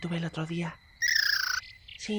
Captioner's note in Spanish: sonidos de conejo